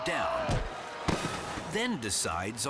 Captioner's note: matador thuds